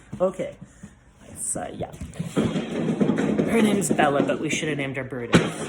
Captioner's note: loud bang from her dropping her massive bone